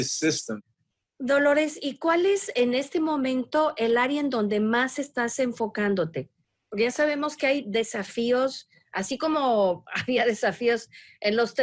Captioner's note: speaking spanish